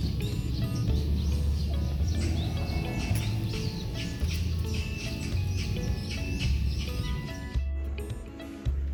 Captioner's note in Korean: 새 지저귀는 소리